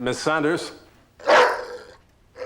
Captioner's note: barking